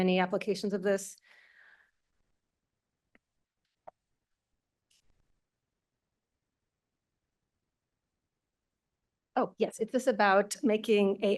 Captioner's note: pause